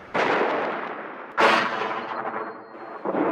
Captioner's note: booming